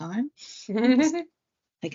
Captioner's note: laughs